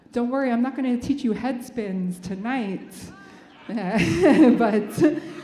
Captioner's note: laughs